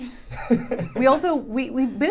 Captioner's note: laughing